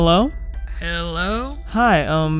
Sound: voiceover

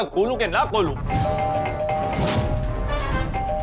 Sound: doorbell ringing

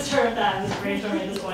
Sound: laughing

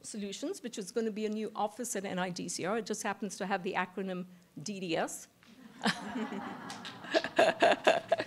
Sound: laughter

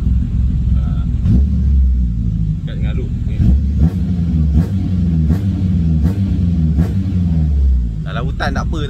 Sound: vroom

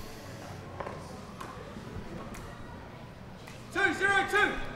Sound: chattering

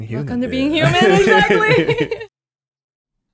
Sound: laughs

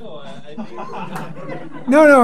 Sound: class laughs

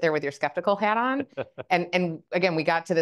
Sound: Alex laughs

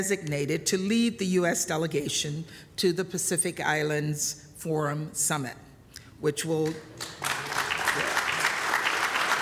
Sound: applause

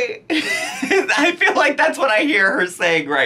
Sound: laughs

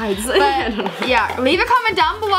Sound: laughs

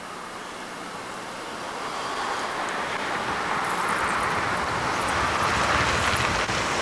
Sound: sound of vehicle approaching

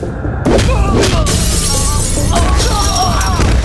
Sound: glass shatters

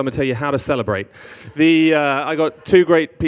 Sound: audience laughing

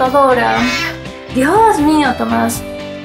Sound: unholy meow from tom

